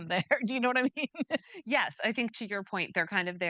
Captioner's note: chuckling